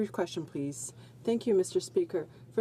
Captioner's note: speaking in french